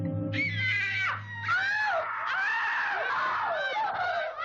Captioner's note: girls screaming